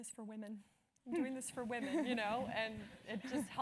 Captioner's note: laugh